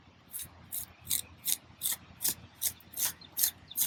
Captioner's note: trowel scraping